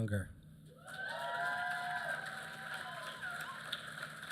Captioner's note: applause